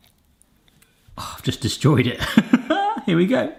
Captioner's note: laughs